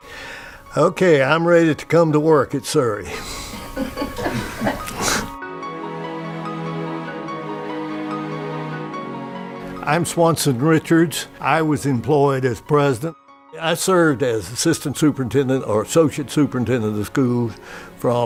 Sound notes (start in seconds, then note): 3.1 laughing